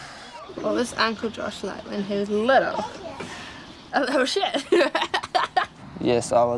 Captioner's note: laughs